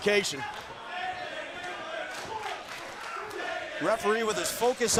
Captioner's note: crowd cheering